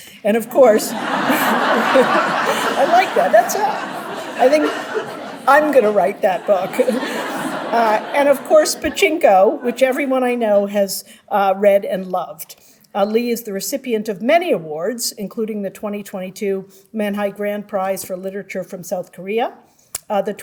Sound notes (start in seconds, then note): 1.4 audience laughing; 1.4 laughing; 7.1 audience laughing